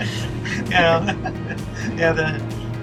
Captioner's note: laughs